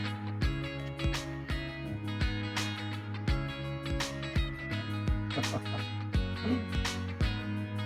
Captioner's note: laughs